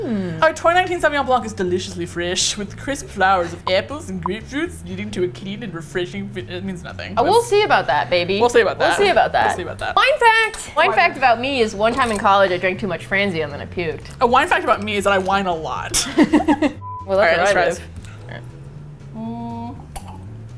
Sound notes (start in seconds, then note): 15.9 laughs